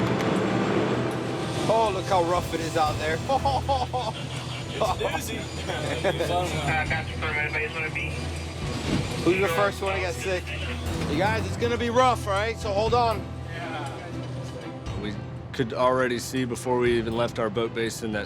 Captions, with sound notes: Oh, look how rough it is out there! (laughing) - It's a doozy. (radio chattering) - Who's the first one to get sick? You guys, it's gonna be rough, alright? So hold on. - We could already see before we even left our boat base